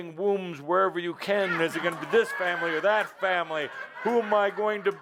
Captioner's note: lots of laughter